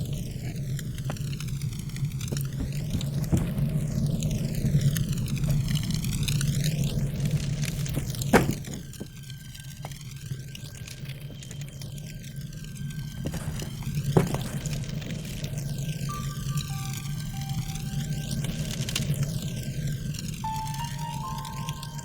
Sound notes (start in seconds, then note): 7.9 slamming; 13.0 rustling; 17.8 somber piano and string music